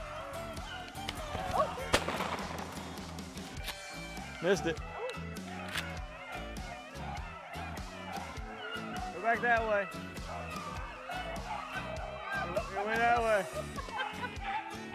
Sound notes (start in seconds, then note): 1.8 gun fires